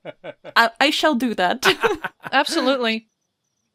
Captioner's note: laughing; laughs